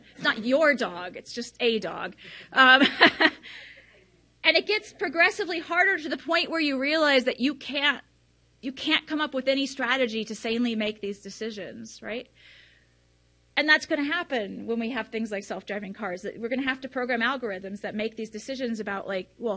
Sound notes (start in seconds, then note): 2.2 laughs